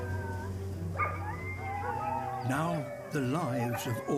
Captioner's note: barking and howling